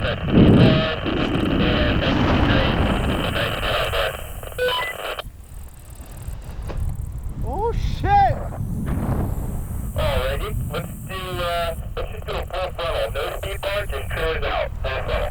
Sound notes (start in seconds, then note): 4.7 radio beeps